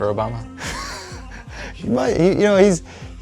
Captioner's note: laughing